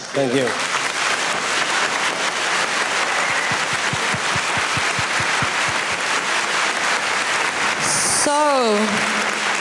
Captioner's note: applause